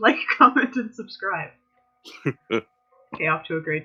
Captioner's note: laughter